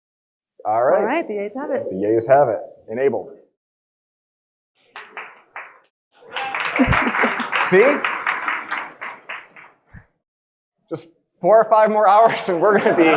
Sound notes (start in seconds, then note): 6.2 audience applauding